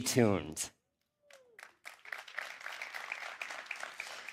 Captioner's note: applause